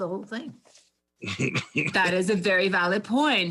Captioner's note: laughs